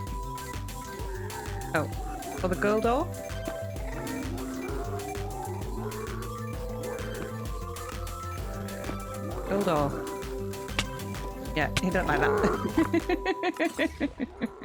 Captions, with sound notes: Oh. Or the gold ore? [Piglin noises] Gold ore...yeah, he don't like that [laughing]